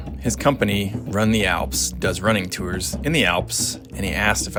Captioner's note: none